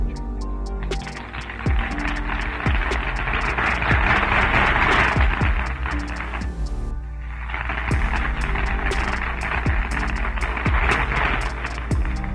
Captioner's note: applause by crowd